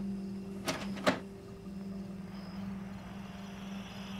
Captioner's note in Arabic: نقرات الزر